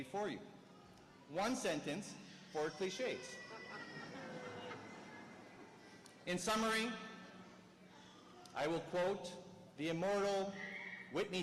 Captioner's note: clears throat